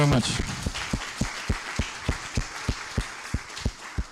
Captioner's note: applause